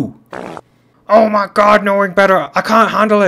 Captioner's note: fart